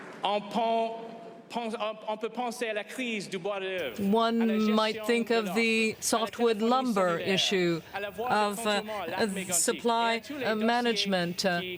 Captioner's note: applause